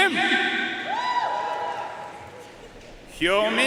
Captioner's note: audience cheering and applauding